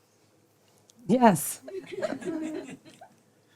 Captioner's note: laughter